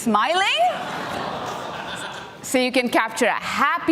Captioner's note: audience laughing